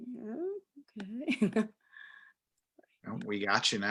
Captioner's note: chuckles